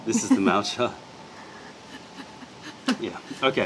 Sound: laughter

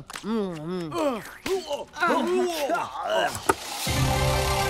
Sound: gagging

